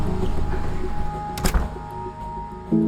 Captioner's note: door closes